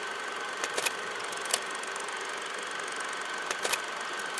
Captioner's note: mechanism clicking